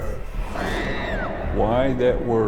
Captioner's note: girl screaming